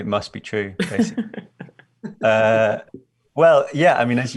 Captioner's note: laughing